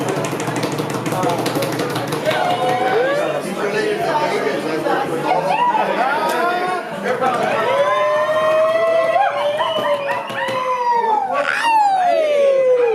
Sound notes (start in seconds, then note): 0.0 people making drum roll; 2.7 cheering; 7.4 whooping and cheering